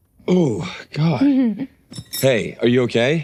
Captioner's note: victim laughing